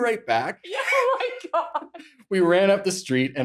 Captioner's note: laughs